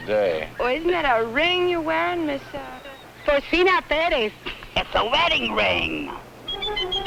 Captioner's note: laughter